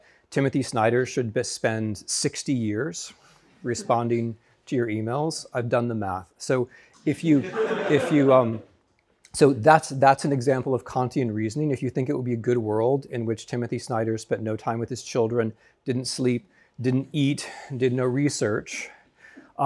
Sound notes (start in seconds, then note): 7.2 students laugh